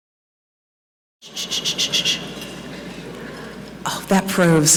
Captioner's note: shushing